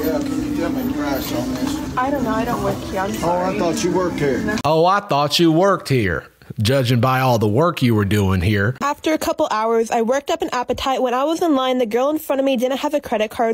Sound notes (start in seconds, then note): 4.7 southern accent